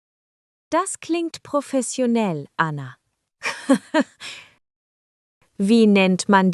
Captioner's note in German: lacht